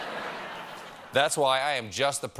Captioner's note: laughter